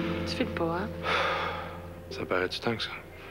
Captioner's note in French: Il soupire